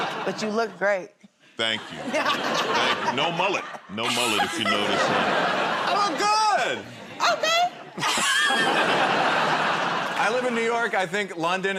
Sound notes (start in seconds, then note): 7.2 laughter